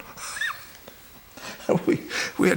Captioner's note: laughs